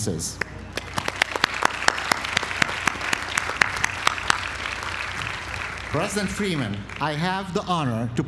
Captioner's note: applause